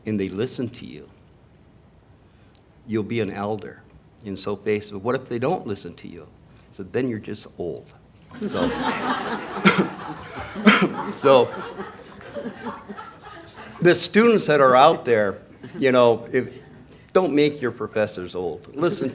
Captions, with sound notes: "and they listen to you, you'll be an elder." And so Pace said, "What if they don't listen to you?" So then you're just old. (laughter) (coughs) So the students that are out there, don't make your professors old.